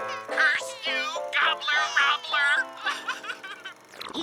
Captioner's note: baby cries; cries